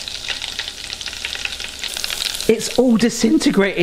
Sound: oil sizzling

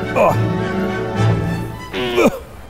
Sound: grunting

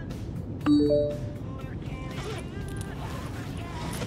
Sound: rock music; notification

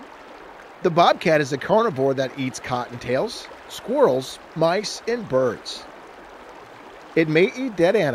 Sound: rushing water sounds

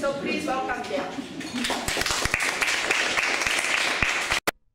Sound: applause

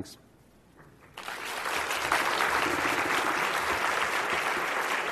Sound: audience clapping

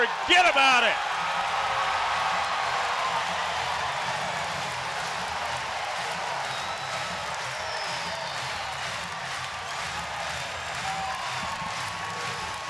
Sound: crowd cheering and clapping

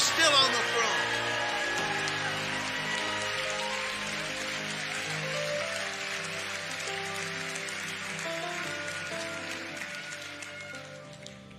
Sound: congregation cheering and clapping

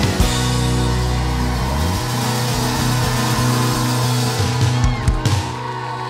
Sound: crowd applauds and cheers

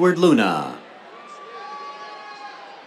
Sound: cheers

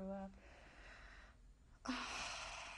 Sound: sighs

